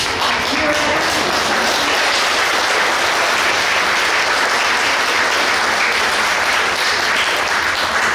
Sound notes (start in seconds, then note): 4.2 clapping